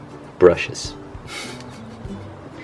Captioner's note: giggles